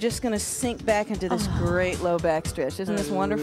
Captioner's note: sighs